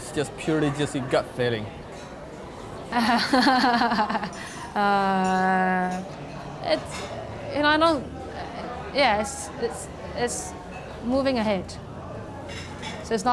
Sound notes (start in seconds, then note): 2.9 laughs